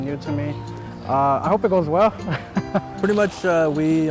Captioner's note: chuckles